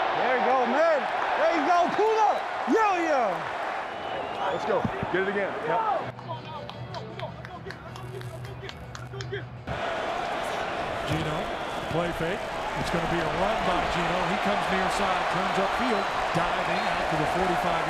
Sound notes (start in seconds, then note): 6.9 crowd cheering